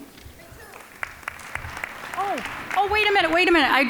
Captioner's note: applause